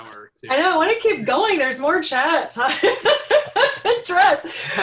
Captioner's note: laughing